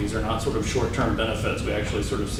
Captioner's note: door closing